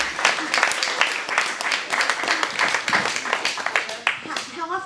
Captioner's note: applause